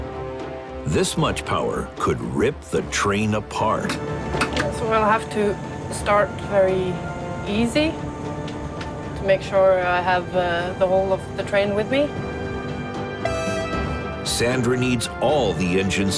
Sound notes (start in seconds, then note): 13.2 train horn sounds